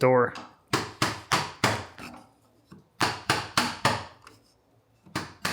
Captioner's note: chisel thudding